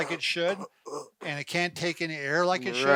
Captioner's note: grunts